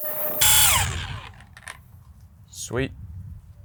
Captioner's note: tape forwards; machine whirring